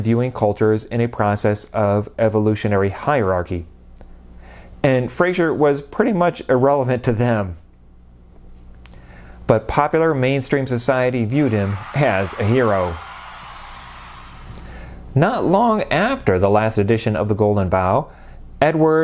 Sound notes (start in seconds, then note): 11.3 cheering